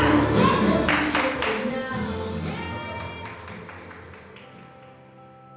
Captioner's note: cheering